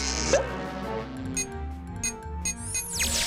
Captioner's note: beeping